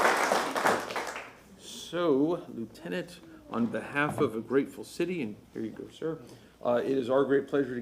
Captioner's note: applause